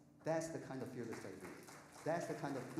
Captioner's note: audience applauding